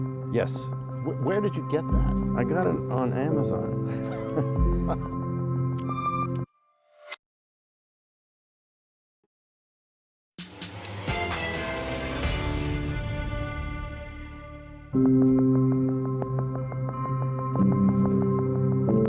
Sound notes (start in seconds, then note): 5.6 laughter